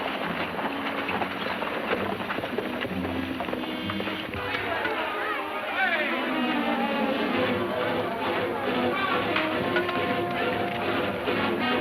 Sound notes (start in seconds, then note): 4.2 suspenseful music; 4.4 men shouting